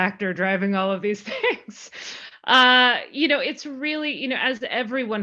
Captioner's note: laughing